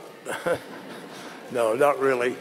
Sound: laughter

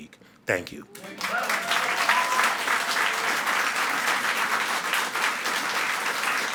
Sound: audience cheering and clapping

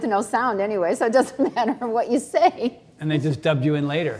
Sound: laughs

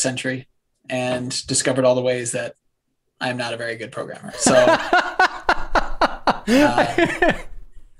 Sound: laughter

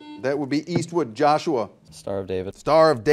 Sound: buzzer dings

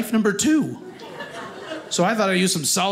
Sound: audience laughing

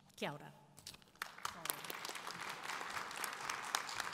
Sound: audience applause

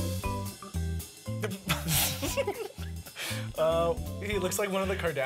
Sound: laughing

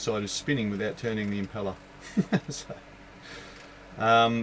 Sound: laughs

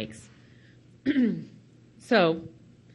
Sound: clears throat

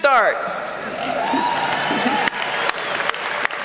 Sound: applause

